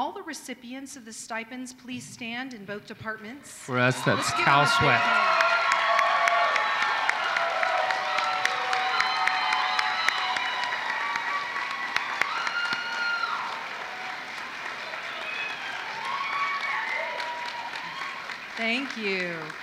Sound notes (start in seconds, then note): 2.1 applause